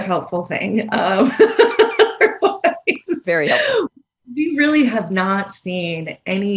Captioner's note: laughs